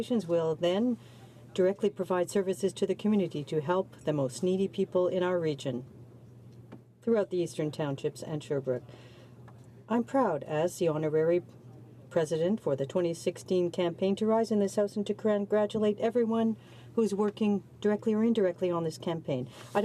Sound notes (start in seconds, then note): 2.2 speaking French